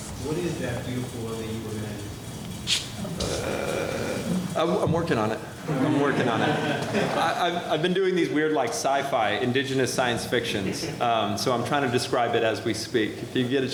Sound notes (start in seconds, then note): 5.6 laughter